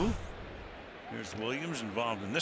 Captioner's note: swoosh